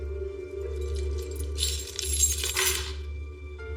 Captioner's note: keyeys janglingng